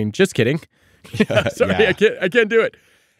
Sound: laughing

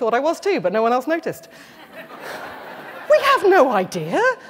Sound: laughter

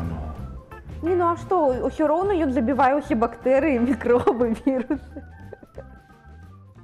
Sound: audible laughter

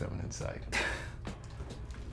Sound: Efosa laughs

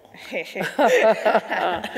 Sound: laughing

